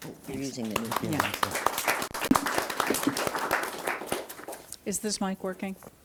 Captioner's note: audience applauding